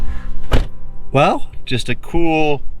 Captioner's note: truck door banging